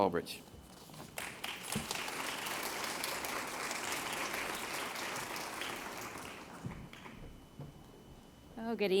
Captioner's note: applause